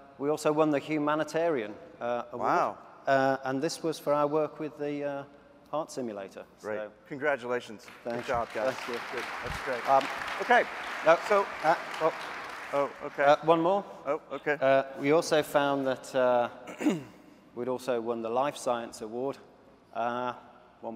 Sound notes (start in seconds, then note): 7.8 applause